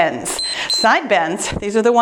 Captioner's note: timer beeps